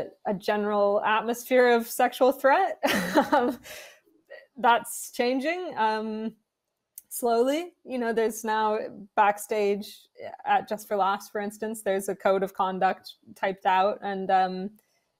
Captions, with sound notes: and a general atmosphere of sexual threat-- (Laughing) That's changing, um, slowly. You know, there's now backstage at Just For Laughs, for instance, there's a code of conduct typed out,